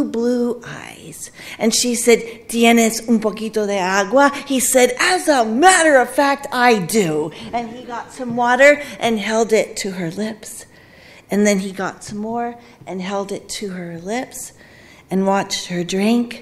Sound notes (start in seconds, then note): 1.6 speaking Spanish